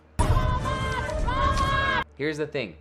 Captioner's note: dramatic yelling